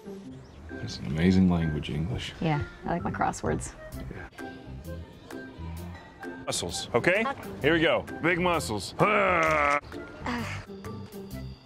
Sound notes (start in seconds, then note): 8.8 grunts